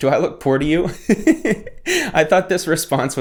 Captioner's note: laughing